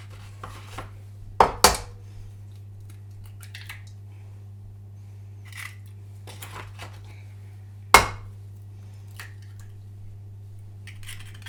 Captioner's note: stirring sounds